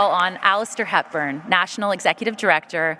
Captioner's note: applause